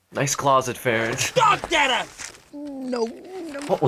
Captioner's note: man's voice